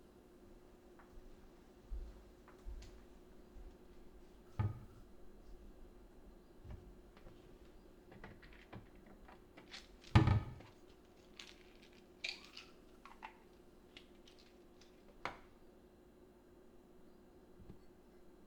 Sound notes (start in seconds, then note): 12.3 pills rattling